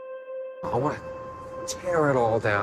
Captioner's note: voiceover